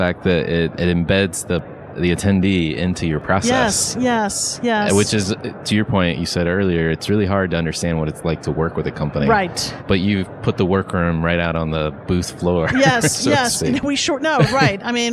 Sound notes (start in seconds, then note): 12.2 laughs